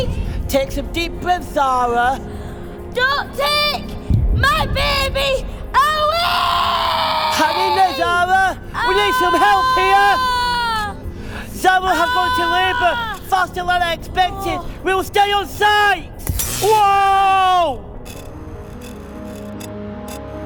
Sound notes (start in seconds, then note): 16.2 light bulb breaks; 18.1 radio interference, tv static